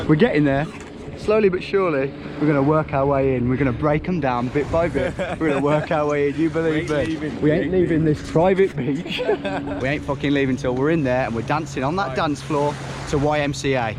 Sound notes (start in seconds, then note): 4.9 laughs; 8.8 laughs